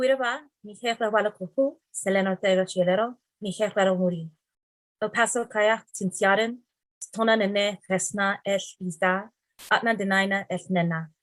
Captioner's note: speaking in Tarahumara, then Ahtna